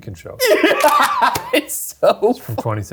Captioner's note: laughing